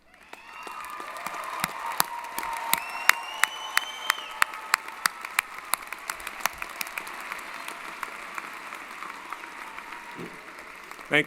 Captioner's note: applause & Cheering